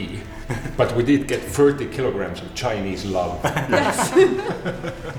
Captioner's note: laughter